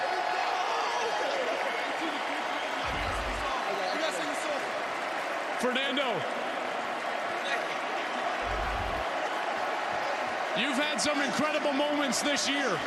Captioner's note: cheers and applause